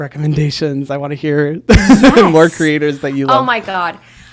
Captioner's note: laughs